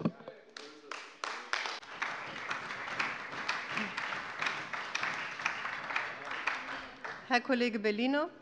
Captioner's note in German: Beifall bei der SPD, der LINKEN und der FDP